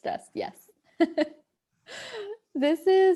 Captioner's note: laughs